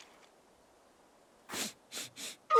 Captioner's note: sniffs